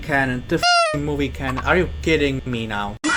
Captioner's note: honk